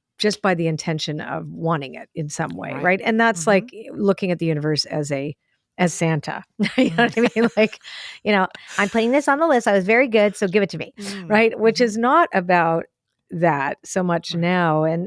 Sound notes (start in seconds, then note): 6.7 laughs